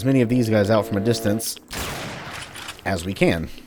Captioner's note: bam